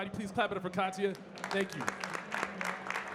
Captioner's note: audience clapping